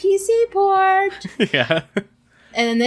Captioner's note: laughs